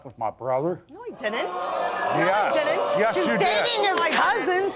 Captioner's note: audience exclaiming